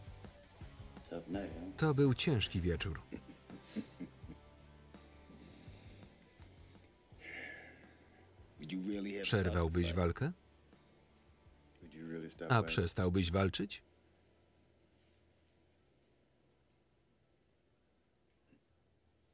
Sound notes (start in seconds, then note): 2.9 laughing; 7.2 sighing